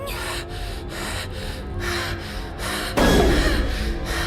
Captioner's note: hyperventilating